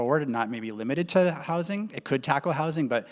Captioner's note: none